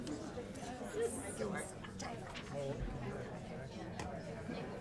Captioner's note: people chattering